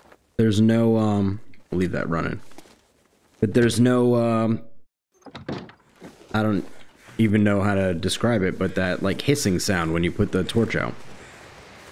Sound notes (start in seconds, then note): 5.2 door opens & closes